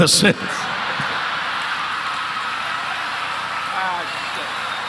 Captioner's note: audience laughing; audience applauding